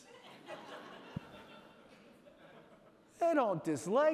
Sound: audience laughing

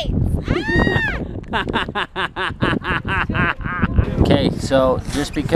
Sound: laughs

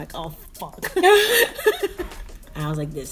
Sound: laughter

